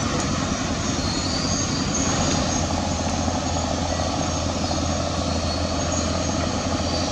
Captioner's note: excavator Engine Sound